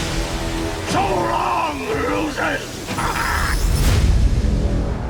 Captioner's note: laughs